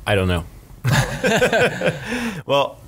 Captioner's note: laughing